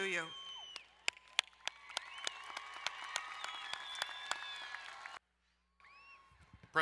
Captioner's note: crowd cheering and applauding